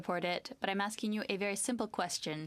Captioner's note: speaking French